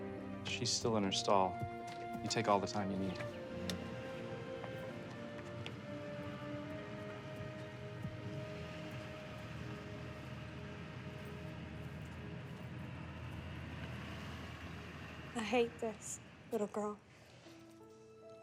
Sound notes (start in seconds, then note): 7.6 truck rumbling